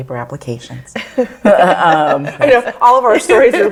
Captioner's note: all laugh